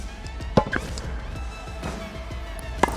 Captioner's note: ball popping